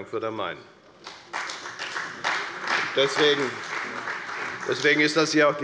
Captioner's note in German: Beifall bei der FDP und der CDU